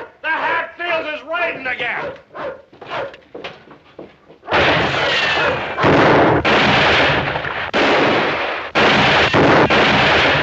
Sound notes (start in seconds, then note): 4.4 gunshots